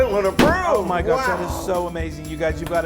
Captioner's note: stamp noise